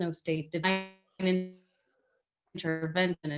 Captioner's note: voice distorts